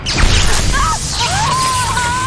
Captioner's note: pained screams filled with visceral pain